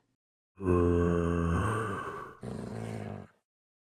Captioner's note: zombie groans in appreciation